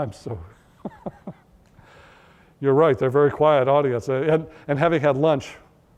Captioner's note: laughter